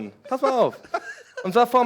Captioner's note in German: Die lachen